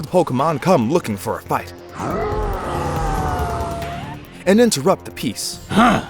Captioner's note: rooaarr and howl!!